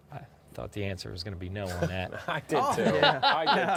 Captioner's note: laughing